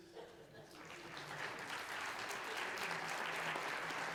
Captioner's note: audience applauds